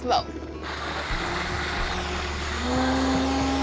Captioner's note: blender whirring; whirring intensifies